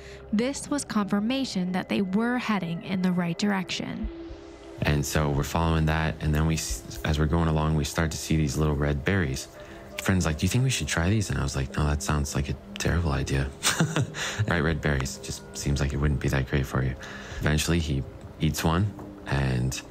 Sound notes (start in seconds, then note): 13.5 chuckling